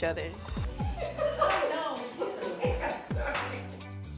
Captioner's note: laughing